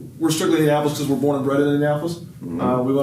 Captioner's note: none